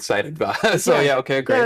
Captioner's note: laughs